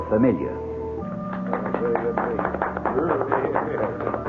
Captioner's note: applause